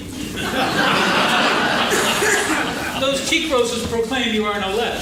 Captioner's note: laughing